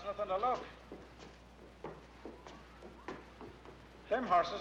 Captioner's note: footsteps